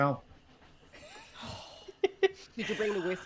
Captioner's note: laughing